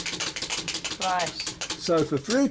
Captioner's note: wheel spinning